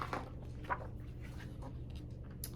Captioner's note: page turns